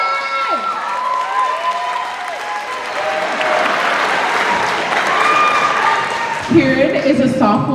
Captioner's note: cheering